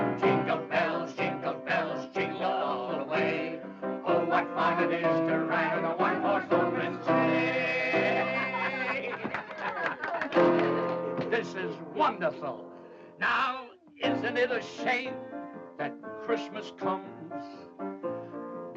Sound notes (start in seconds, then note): 8.2 laughing and clapping